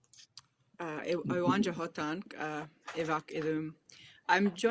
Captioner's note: speaking a foreign language